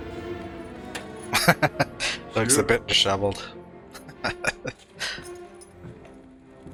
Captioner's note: laughing